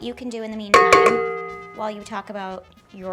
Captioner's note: metallic banging